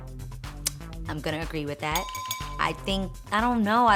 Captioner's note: bells rings